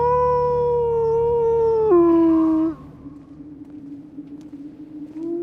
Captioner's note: howling